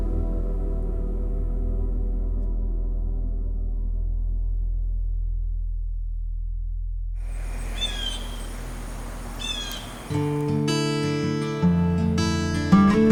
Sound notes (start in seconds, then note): 7.2 bird squawks; 10.2 gentle music